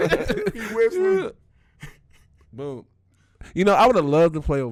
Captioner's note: laughing; laughs